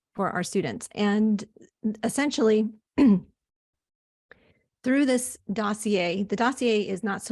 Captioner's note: clears throat